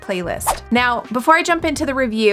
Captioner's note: whoosh